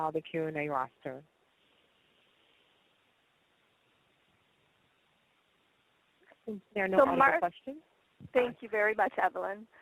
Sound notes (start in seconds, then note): 1.1 silence